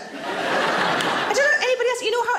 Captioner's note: audience laughs